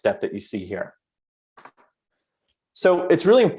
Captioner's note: keyboard clicks